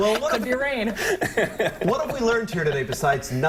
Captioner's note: laughter